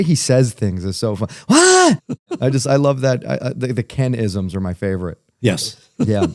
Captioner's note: laughter